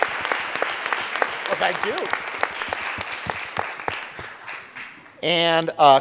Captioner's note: audience applauding